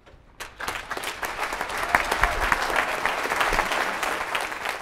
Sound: audience applauding

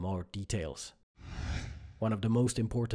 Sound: screen whooshes

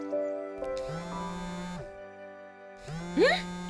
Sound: mobile ringing

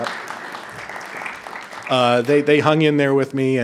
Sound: attendees applauding

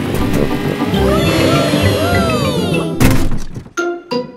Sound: all cheering

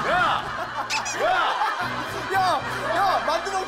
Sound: laughing

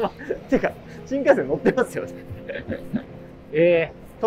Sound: laughing; laughing

